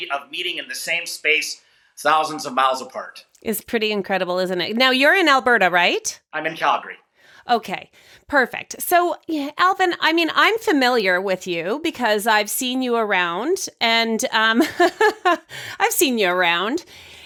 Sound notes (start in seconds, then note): 14.5 laughing